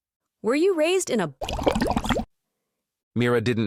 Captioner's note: bubble noise